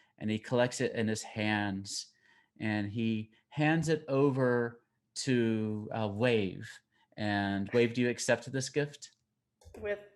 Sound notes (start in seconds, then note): none